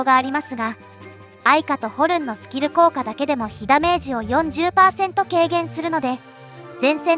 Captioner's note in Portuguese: Horn